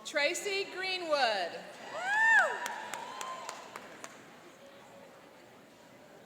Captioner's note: cheering and applauding